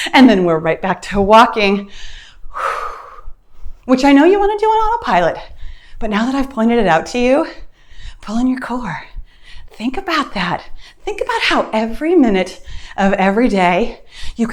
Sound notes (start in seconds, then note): 2.5 exhales loudly